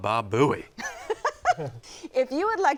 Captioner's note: laughter